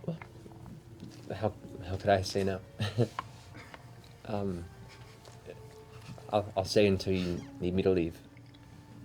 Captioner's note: chuckles